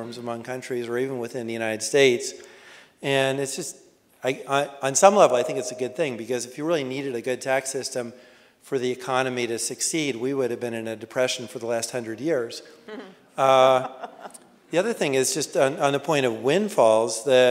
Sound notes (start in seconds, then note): 13.4 laughing